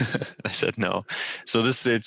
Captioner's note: laughter